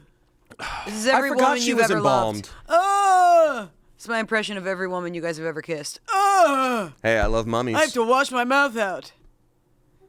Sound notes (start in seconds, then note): 3.2 groans; 6.1 groans